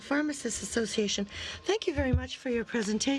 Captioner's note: speaking French